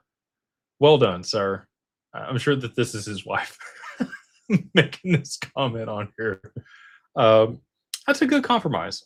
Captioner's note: laughter